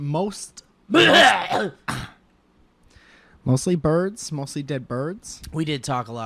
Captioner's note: violently hacks up mucus